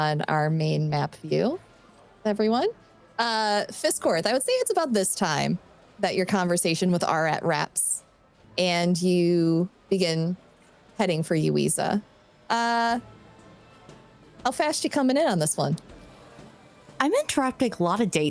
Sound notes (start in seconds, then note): none